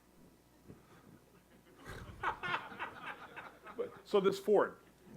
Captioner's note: audience laughs